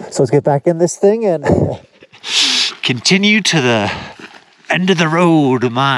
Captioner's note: laughing